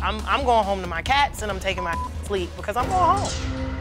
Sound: beep

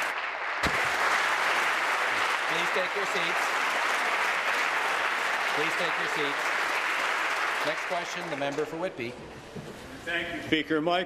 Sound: applause

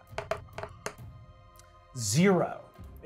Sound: dice rolling

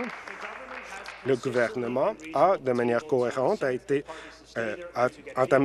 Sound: applause

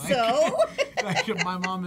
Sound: both laugh

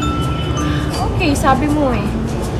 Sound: sigh

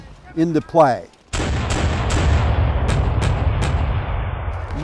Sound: canons firing

